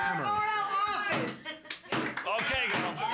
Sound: gavel knocking

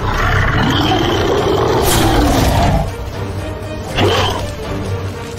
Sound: cannon Fire / Roaring

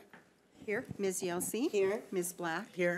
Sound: bold Voice

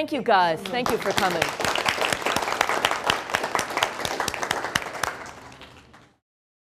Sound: applause

